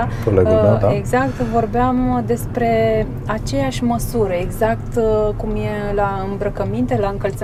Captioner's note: laughs